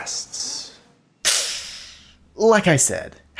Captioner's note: winces